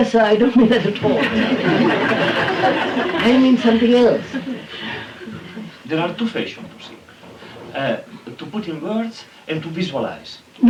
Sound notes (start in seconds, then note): 0.8 laughter